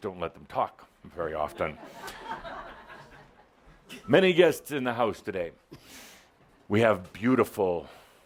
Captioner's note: some laughter